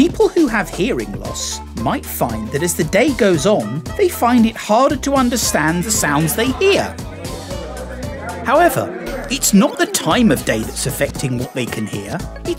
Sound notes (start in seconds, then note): 7.4 people babbling